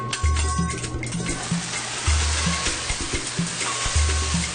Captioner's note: flame crackles